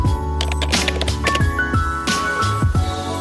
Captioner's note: keyboard typing; jazz music